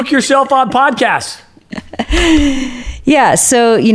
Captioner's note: laughs